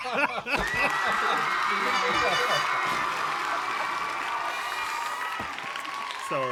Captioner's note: laughter; applause